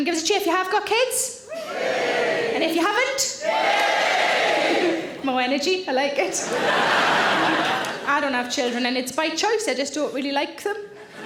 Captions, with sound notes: Give us a cheer if you have got kids. (audience cheering) And if you haven't. (audience cheering louder) More energy, I like it. (audience laughing) I don't have children and it's by choice, I just don't really like them.